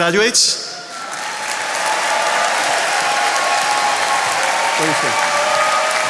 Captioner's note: attendees cheering and applauding